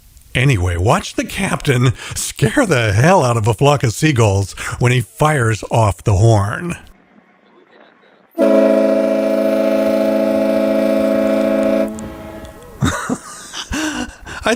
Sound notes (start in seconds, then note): 8.3 loud horn; 12.2 laughing